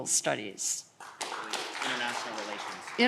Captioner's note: audience clapping